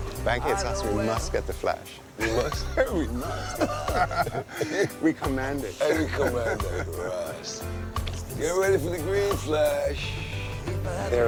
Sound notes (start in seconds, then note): 2.2 laughter